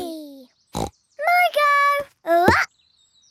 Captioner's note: snorts